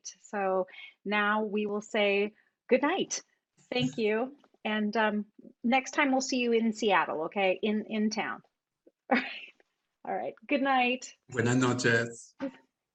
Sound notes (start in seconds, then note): 9.3 laughs